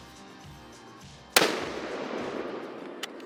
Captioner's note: gun fires